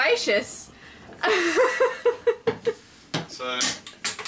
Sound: laughing

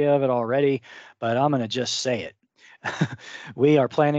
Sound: chuckles

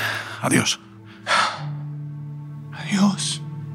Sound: sigh

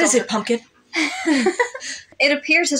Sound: both Laugh

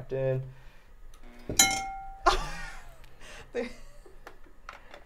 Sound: glass dinging

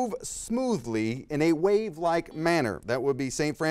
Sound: bell rings

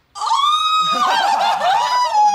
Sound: screams

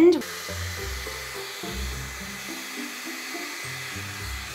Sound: blow dry sound

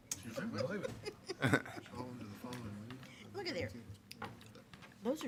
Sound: attendees chattering

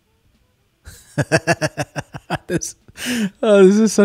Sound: laughing

